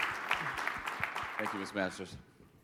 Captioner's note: audience clapping